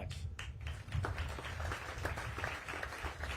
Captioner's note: applause